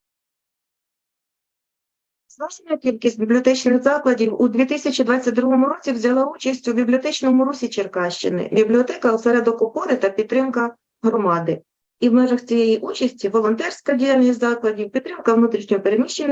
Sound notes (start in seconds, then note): 2.6 foreign Language Spoken